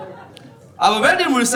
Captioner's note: audience laughing